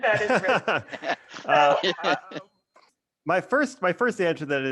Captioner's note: all laughing